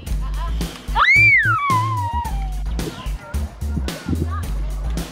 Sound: upbeat music; child screams

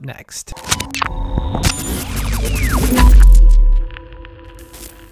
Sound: electronic whirring

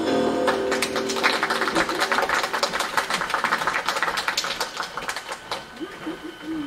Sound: applause

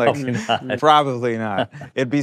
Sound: laughing

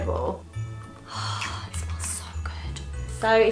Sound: whispers

